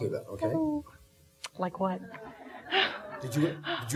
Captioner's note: audience laughing